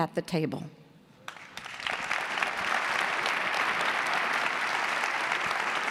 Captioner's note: audience clapping